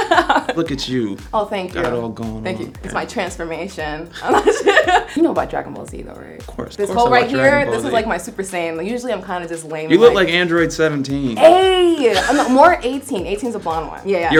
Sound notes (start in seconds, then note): 4.2 laughs